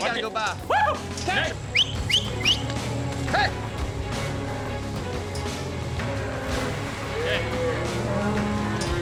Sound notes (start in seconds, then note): 1.6 whistling